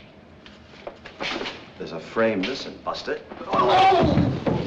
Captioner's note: groans